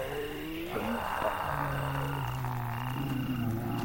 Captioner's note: zombies groaning